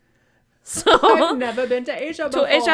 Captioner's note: Moira Rose voice